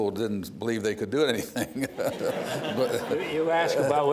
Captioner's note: laughter